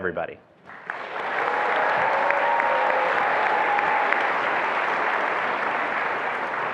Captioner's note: attendees applauding and cheering